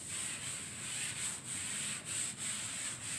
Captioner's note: wiping sounds